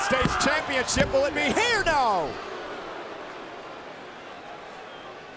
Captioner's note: hands thudding; crowd murmuring